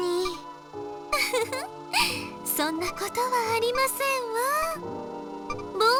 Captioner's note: giggle